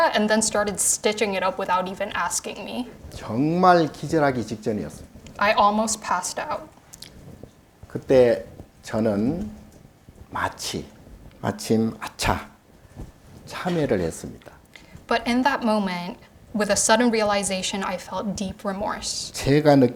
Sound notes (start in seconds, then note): 3.5 speaking Korean; 19.8 speaking Korean